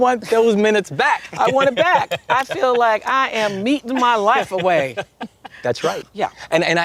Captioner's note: laughter